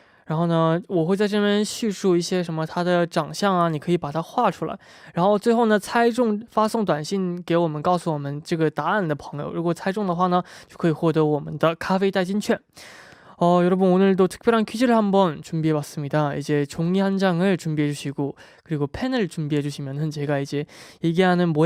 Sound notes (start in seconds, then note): 13.2 explaining the rules in Korean